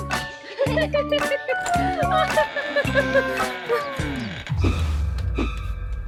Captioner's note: Max and Blueberry laughing; suspenseful music